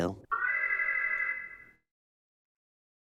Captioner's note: alarm